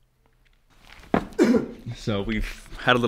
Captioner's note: grunts